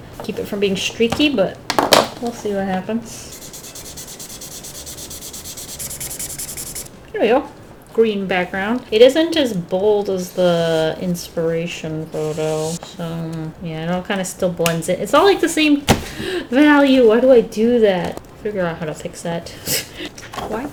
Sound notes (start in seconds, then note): 16.0 deep inhale; 19.9 chuckles